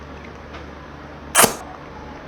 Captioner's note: slurp